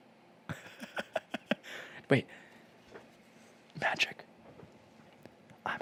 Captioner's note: laughs